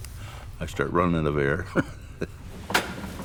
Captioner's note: laughing